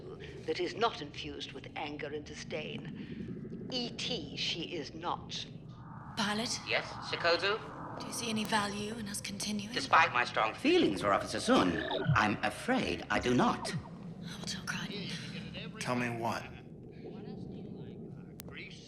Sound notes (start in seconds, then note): 14.3 indistinct chatter from TV